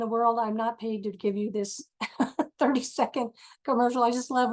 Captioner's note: laughs